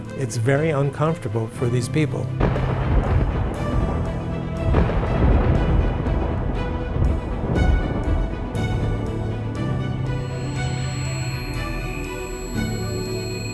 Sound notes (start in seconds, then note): 2.5 thunder booming; 10.1 signal beeping